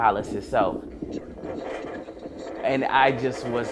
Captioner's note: heartbeat sound